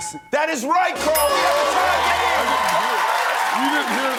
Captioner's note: applause